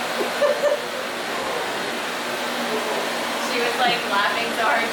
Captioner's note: laughing